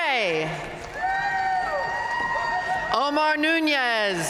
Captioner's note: audience cheering and applauding